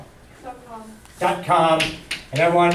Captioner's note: voiceover